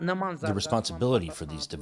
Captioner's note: through translator